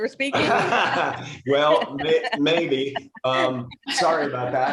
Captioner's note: laughs